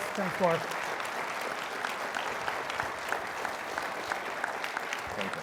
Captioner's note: everybody applauds